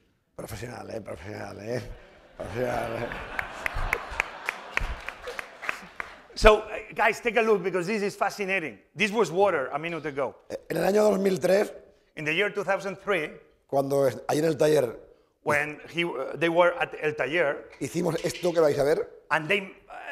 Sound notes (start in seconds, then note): 1.3 speaking spanish; 1.8 laughter; 4.3 applause; 11.1 speaking spanish; 14.3 speaking spanish; 18.5 speaking spanish